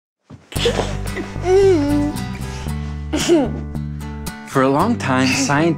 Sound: laughter

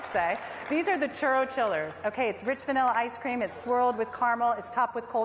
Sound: cheers and applause

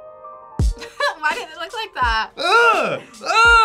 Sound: upbeat music; laughs

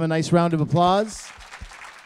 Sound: applause

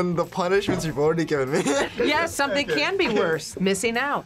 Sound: laughs

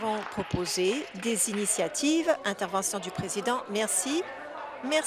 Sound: applause

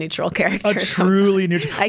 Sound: laughs

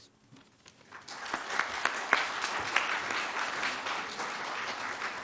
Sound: audience claps

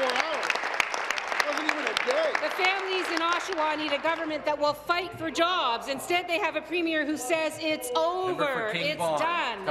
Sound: applause

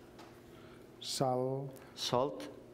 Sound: speaking catalan

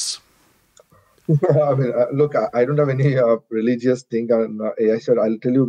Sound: laughing

